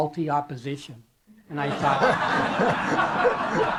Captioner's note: laughter